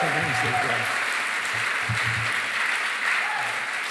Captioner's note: cheering, applause